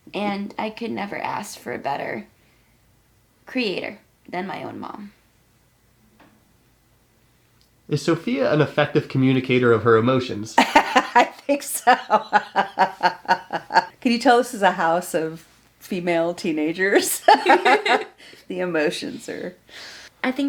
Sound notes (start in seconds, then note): 10.6 mother laughing; 17.0 and her mother laughing